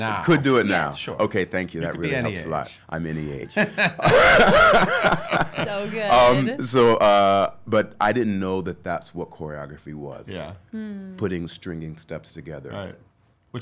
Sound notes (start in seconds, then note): 3.5 everybody laughing